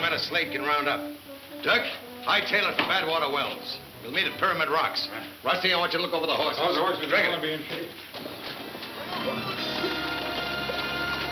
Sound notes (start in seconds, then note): 6.4 voice trailing off; 8.5 dramatic western music